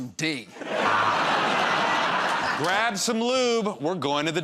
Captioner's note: laughter